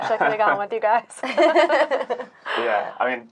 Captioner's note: laughing